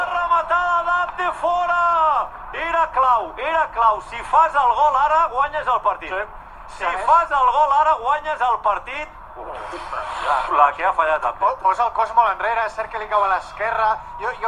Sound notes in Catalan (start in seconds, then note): 9.4 Bufan de frustración